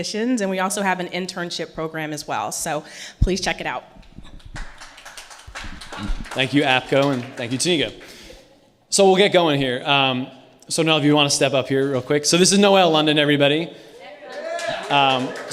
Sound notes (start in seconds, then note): 2.9 audience Applause